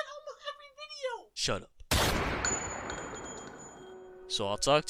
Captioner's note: gunshot